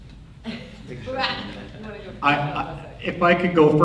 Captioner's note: overlapping chatter